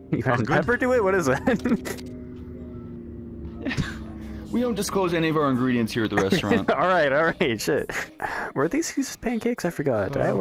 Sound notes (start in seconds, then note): 0.2 laughs; 3.6 exhale; 6.1 laughs